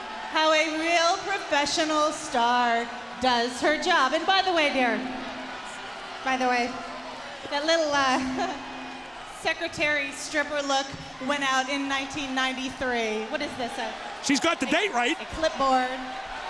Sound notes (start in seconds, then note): 8.3 chuckles